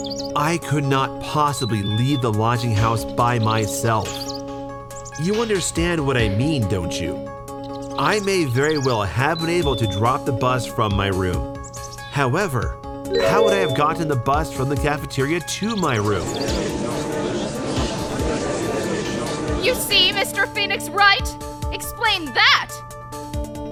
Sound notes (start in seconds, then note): 17.1 gallery chattering!